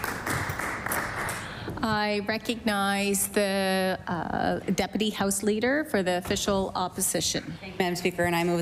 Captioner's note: applause